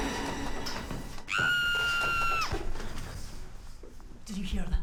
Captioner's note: screaming